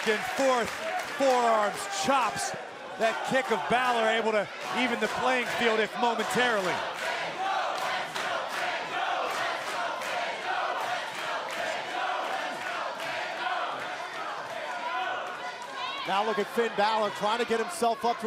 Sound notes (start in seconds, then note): 5.4 crowd cheering